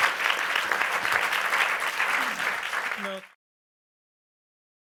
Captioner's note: applause